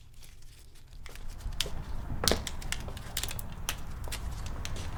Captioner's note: traffic humming faintly